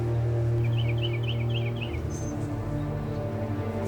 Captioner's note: birds chirping